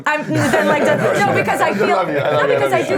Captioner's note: laughing